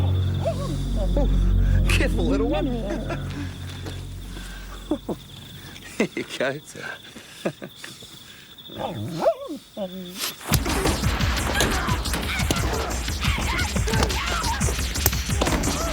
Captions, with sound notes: (Wolf barking) - Ooh, careful little one. Here you go. - Yeah. (Wolf barking) (dramatic music) (Jodie yelling) - Get off him!